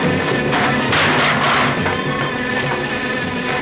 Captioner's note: thudding; buzzing